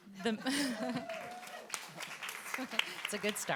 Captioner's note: audience applauding and cheering